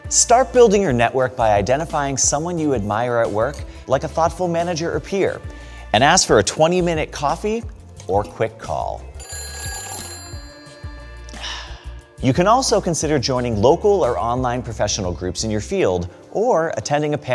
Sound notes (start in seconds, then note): 9.1 phone ringing